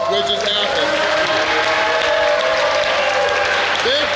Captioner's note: cheering & Clapping